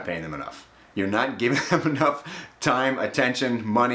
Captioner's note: chuckling